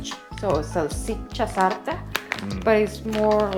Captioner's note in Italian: in italiano